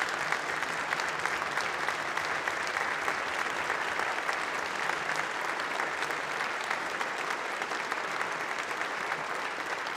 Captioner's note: applause